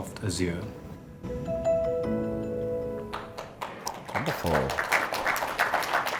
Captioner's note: applause